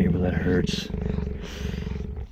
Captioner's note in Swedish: grrrrrrrrrrr